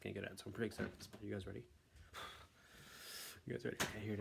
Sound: sigh

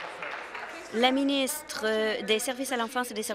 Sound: applause

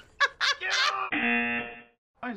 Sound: buzzer

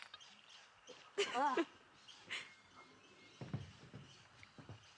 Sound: laughter

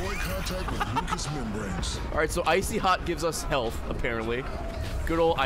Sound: laughs

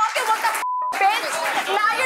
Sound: beep

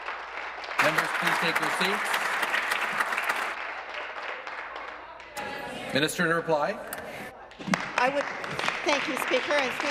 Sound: applause

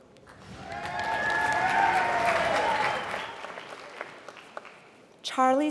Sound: applause

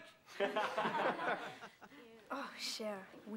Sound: stenudts laughgin

